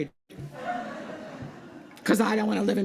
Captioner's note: laughter